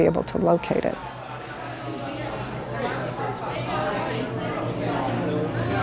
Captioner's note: bar patrons chatting